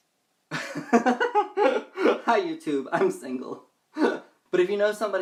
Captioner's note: laughs